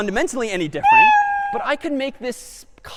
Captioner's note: meow